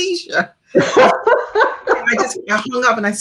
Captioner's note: laughing